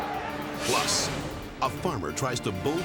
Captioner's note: people yelling; dramatic whoosh